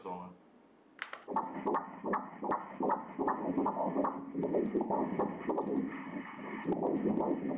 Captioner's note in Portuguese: batimentos cardíacos